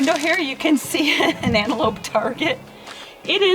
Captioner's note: laughing